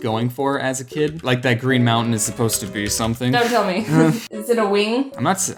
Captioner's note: laugh